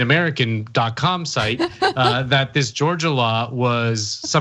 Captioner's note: laugh